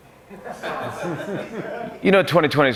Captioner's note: laughter